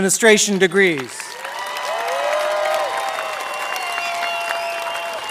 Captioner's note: applause